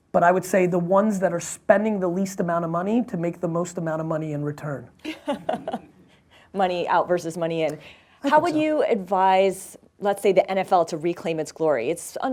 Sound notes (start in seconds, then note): 5.0 laughs